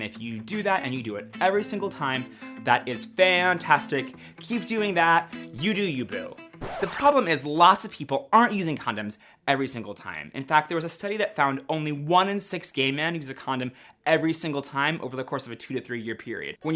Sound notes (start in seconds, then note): 6.6 record scratch